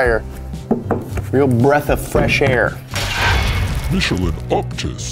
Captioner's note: tapping